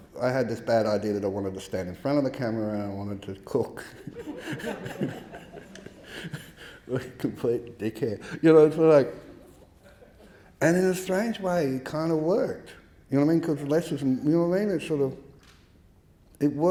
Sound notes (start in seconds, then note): 3.9 audience laughing; 3.9 laughs